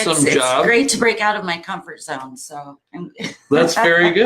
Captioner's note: laughs